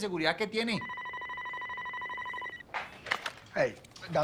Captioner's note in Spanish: Suena el teléfono